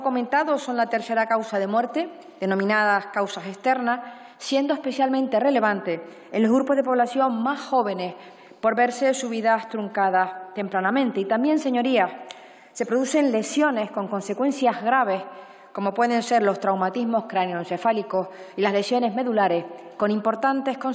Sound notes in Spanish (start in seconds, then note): none